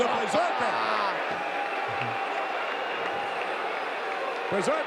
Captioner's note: audience cheering